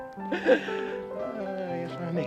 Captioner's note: Joe laughing